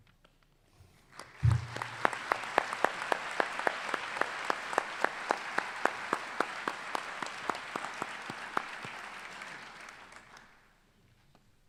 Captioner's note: applause